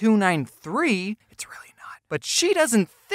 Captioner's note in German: flüstert